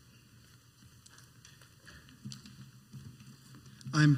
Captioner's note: footsteps